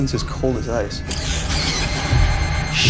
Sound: mouse squeaking

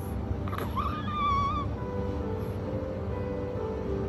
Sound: baby squealing

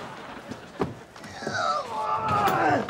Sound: grunting; groaning

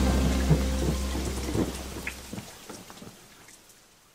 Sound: thunder and rain

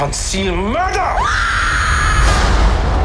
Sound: screaming

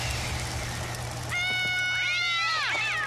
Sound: screaming

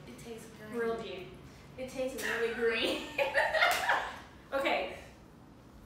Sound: laughter

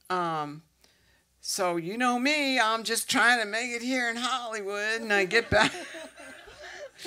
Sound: with country accent; laughter

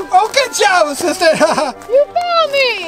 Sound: man laughs

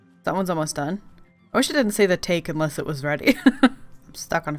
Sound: laughs

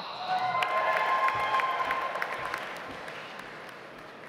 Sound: audience applauds

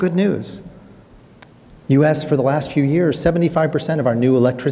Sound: clicks tongue

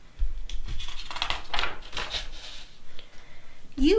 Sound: page flips

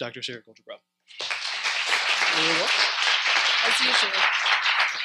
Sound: audience Applauds

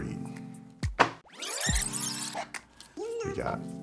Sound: fast-forward screeching

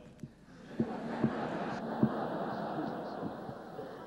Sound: laughter

